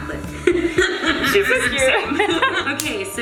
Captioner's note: laughs